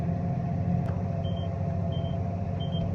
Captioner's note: beeping